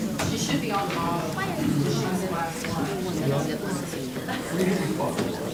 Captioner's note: crowd talking indistinctly